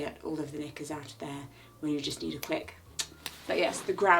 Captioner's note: clicks tongue